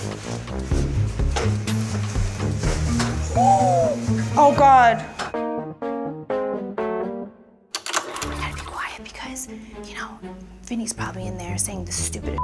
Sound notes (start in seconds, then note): 0.1 upbeat music; 3.5 gasps; 5.4 soft music